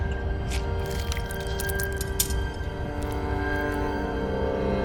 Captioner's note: blood drips